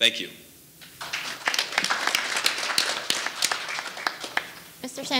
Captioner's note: audience applauding